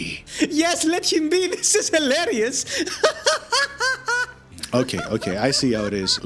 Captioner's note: goat Laughing